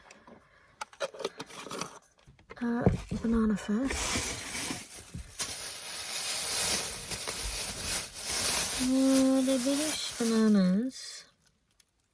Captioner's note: lid screwing on; bag rustles